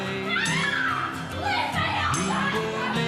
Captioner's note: screaming